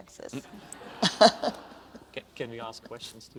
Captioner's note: audience laughs